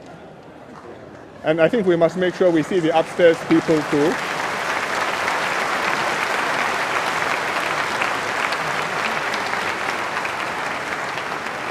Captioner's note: applause